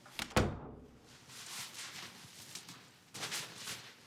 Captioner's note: door shuts